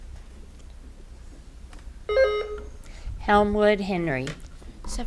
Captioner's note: button buzzing